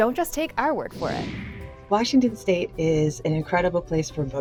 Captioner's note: screen whooshing